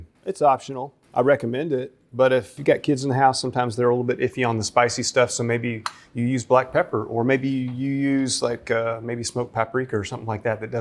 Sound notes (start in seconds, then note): none